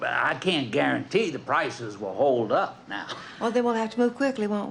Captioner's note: laughs